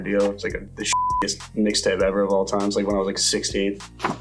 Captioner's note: beep